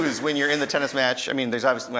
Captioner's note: laughing